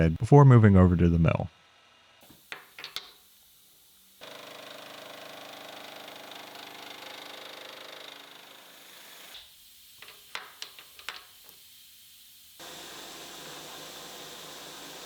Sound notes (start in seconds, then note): 2.5 lathe whirring